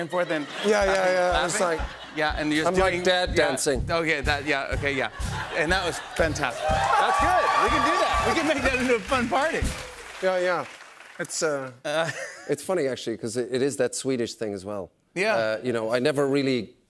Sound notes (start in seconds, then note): 6.2 cheers and applause